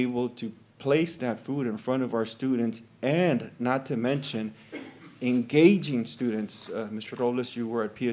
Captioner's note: clears throat